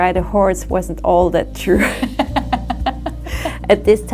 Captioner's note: laughs